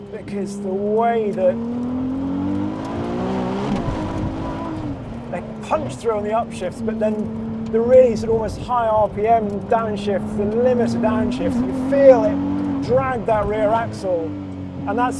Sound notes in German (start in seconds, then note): 1.3 lautes Aufheulen des Motors